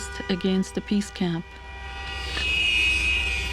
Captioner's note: car horns